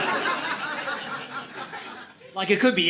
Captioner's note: audience laughing